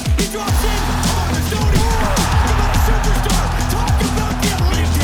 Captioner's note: crowd cheering